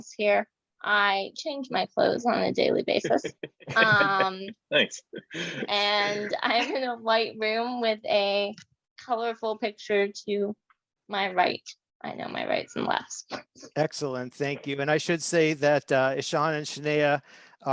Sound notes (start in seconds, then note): 3.0 chuckles